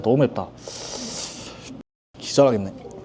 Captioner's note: slurp